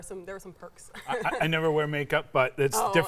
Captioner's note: laughs